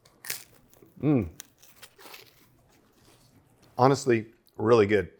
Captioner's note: pizza crunches